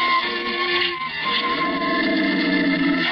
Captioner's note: dog growling